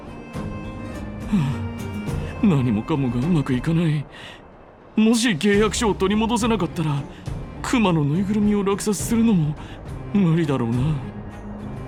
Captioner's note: sigh